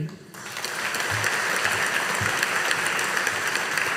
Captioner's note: audience applauding